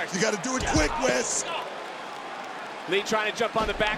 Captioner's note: wrestlers grunt